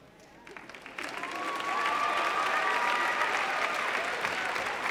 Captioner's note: audience applauding